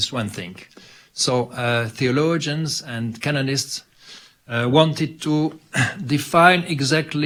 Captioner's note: clears throat